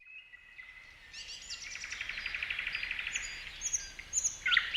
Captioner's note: birds singing